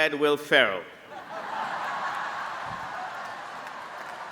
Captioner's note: applause